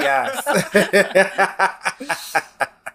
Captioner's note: laughs